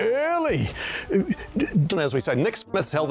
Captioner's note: gasping